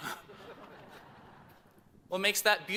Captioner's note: chuckles